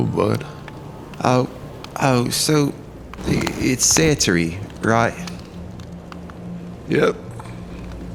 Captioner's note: demurely, hesitantly